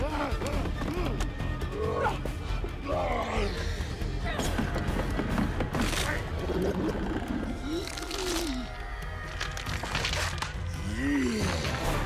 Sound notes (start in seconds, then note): 0.0 grunting; 0.4 straining; 5.8 gurgling; 10.8 grunting